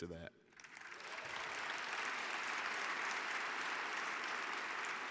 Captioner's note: audience cheering